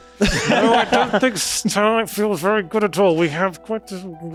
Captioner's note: all laughing